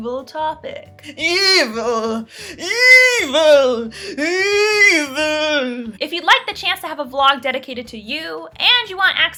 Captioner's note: evil Voice